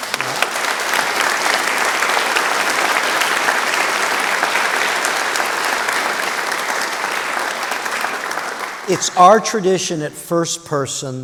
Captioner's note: applause